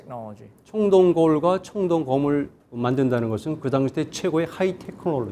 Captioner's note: speaking in Korean